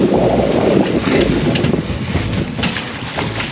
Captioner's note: wind blowing